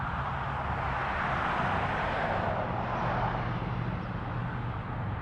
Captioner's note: more aesthetic traffic noises